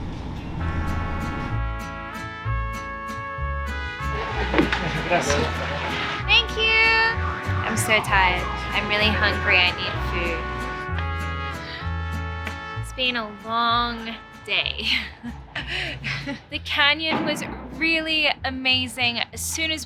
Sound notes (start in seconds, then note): 17.1 firework explosion in distance